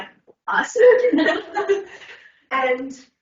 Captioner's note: everyone laughing